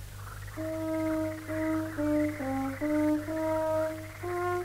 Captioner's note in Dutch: in de verte klinkt een hoorn